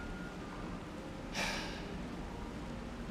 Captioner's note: sigh